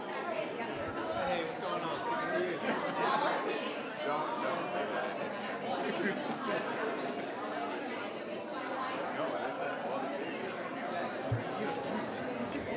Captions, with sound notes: - Hey, what's going on? (attendees chattering)